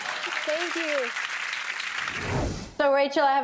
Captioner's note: audience clapping